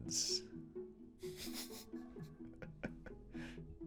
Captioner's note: giggles